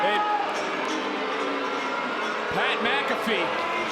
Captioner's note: crowd boos